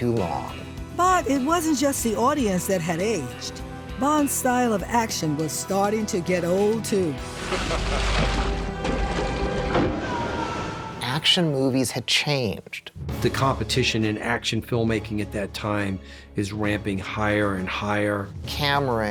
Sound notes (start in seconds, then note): 7.3 water splashing; 7.3 evil laughter; 9.6 screaming